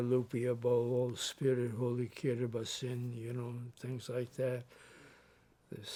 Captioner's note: speaks Spanish